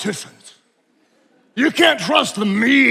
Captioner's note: attendees laughing